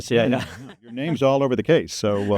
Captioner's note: chuckling